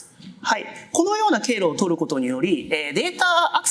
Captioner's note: speaking japanese